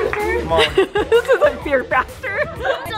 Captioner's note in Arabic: يضحك